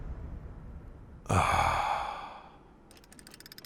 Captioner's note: Sigh of Relief